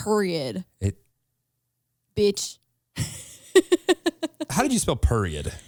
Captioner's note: laughs